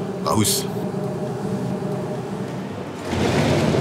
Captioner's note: machine whirring